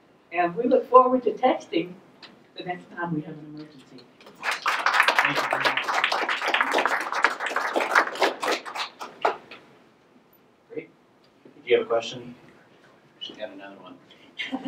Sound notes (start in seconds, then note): 4.3 everyone applauding